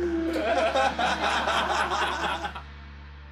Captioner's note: laughter